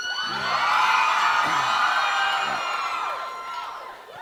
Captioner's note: audience cheering